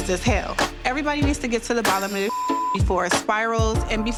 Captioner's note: beep